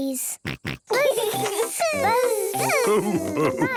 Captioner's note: both buzzing